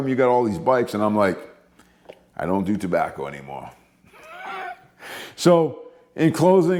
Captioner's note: laughing